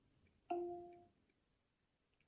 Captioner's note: device chimes